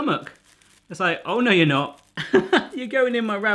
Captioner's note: laughs